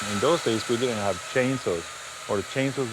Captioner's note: saw cutting ice